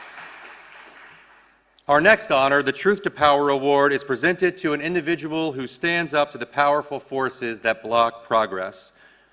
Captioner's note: applause